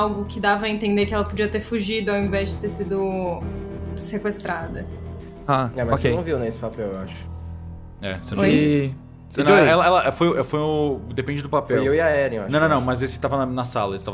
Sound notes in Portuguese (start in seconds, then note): none